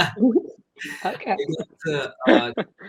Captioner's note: giggles; laughs